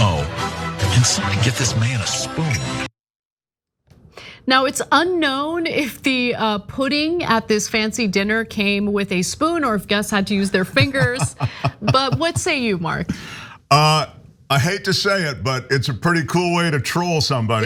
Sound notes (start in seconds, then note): 10.4 laugh